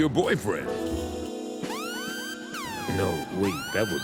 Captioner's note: Kill Bill Siren sounds